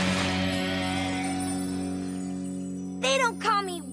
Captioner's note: screech!; tinkle!